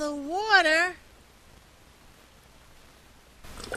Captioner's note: sound of bubbles in water